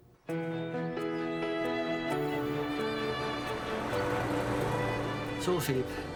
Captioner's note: engine rumbles; upbeat music